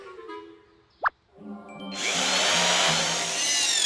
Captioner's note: drill whirring